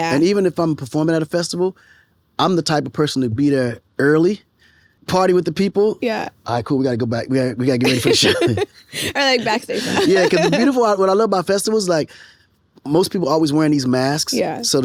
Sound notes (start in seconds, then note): 7.8 both laughing